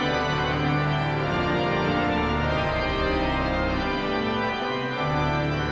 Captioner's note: audience chattering continues